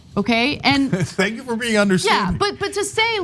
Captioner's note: laugh